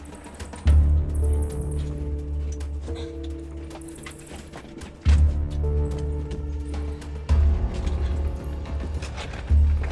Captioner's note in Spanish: Ruidos al andar